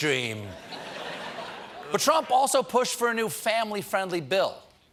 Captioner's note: laughter